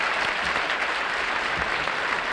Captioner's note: applause